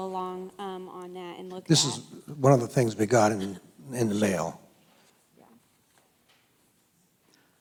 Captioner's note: voiceover